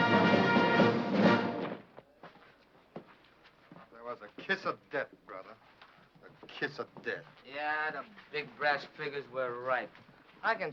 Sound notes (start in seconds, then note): none